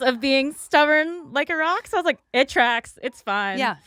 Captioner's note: none